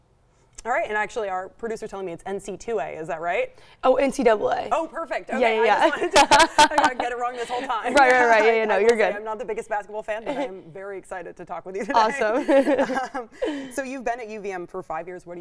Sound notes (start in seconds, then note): 5.7 laughing; 12.0 both laugh